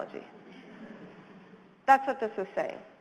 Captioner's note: audience chuckles